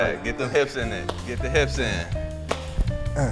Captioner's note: Spice claps; salsa music; Spice claps; salsa music